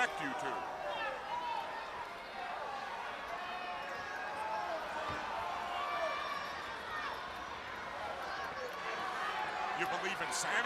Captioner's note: crowd chatter